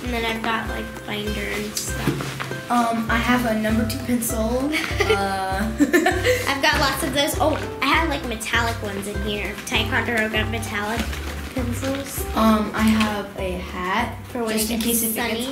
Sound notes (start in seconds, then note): 5.6 laughs